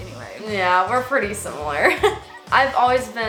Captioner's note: laughs